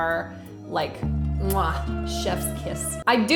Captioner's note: mwah